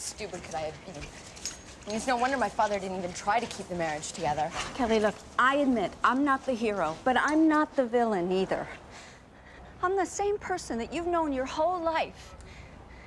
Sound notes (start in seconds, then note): none